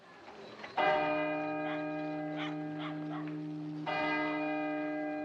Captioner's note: CLOCK CHIMlNG